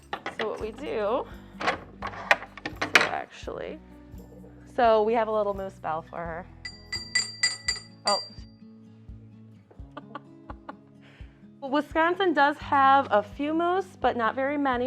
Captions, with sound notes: So what we do, actually, So we have a little moose bell for her. (bell jangles) (chuckles) Well Wisconsin does have a few moose, but not very many,